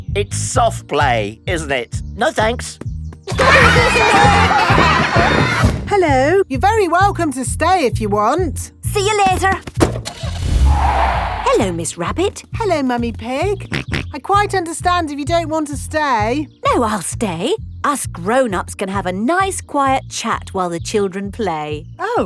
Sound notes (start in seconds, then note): 3.3 laughter; 9.8 car starting; 9.8 tires screeching; 13.9 snorts